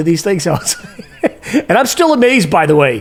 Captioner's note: chuckles